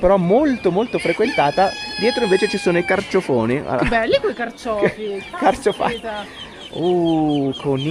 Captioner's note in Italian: risate